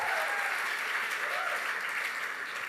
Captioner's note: applause